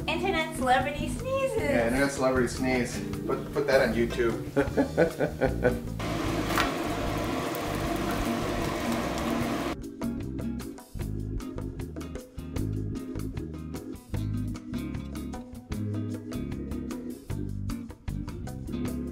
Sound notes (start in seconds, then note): 4.6 laughs